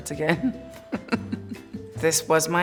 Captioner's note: laughs